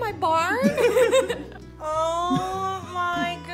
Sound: all chuckle

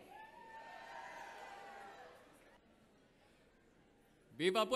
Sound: audience cheers

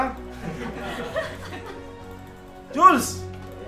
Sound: laughter

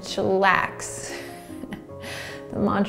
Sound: laughing

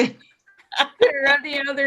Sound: laughing

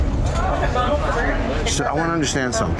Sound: background talking

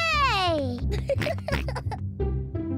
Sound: giggles; george oinks

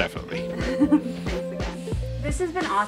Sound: laughs

